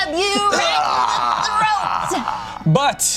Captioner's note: screams